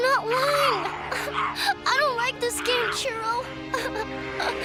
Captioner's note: cries